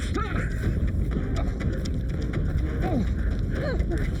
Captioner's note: Larry groaning